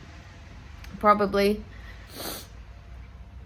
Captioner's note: sniffs